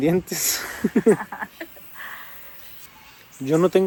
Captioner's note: laughter